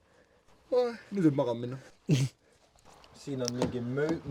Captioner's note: yawns